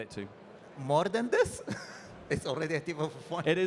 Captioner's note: chuckling